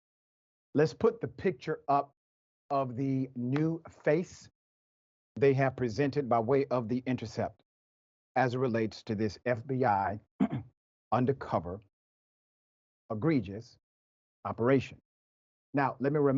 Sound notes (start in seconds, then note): 10.4 cough